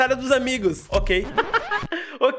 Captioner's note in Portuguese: risos